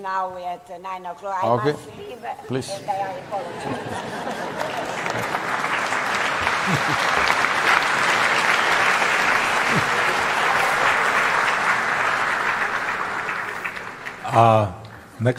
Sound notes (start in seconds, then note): 10.7 laughter/Applause